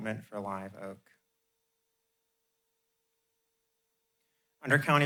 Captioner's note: pause